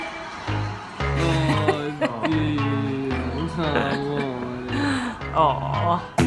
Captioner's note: coos at dog